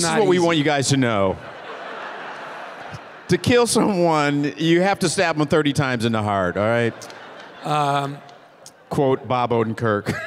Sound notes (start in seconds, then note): 1.7 audience laughing; 6.3 audience laughing